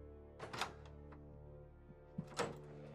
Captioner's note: door opens